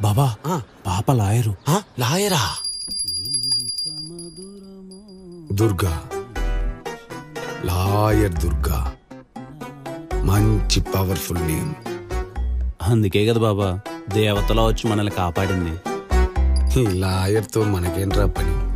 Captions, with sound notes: Baba, she's a lawyer. Lawyer? [bell dings] [humming] Durga.. Lawyer Durga! What an, Powerful name. That's why she saved us. What can we do with Lawyer?